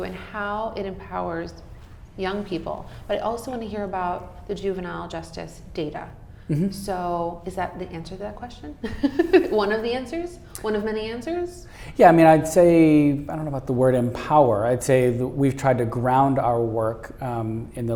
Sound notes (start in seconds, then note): 8.9 laughing